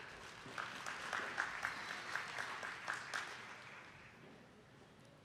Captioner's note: attendees clapping